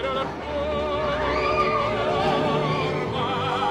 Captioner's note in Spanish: gritos